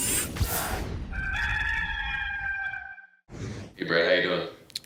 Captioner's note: cock crows